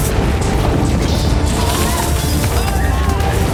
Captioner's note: yells